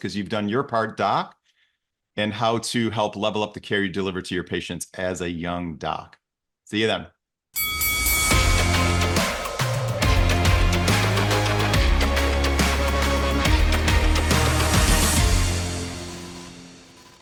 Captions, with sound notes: 'cause you've done your part doc, and how to help level up the care you deliver to your patients as a young doc. See you then. (bell rings) (upbeat music)